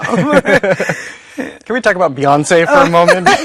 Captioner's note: both laughing